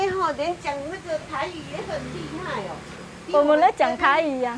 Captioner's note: mandarin Taiwan